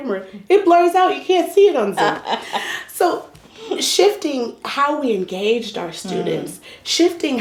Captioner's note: laugher